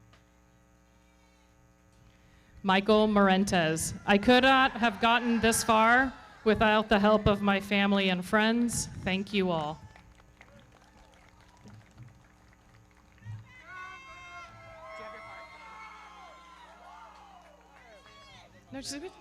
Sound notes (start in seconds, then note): 9.2 everybody clapping; 15.8 audience cheering